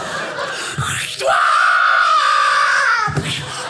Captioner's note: audience laughing; shrieking; punch